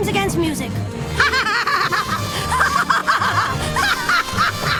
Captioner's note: evil laughing